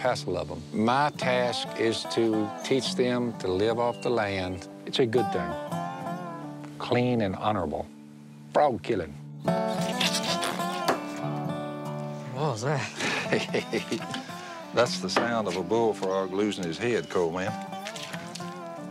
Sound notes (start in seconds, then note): 9.7 spattering; 12.8 laughter